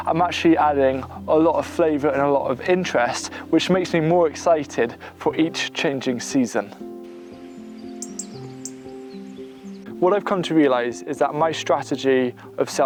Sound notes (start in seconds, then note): 6.1 birds chirping; 7.1 gentle music